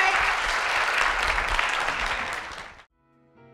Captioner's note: applause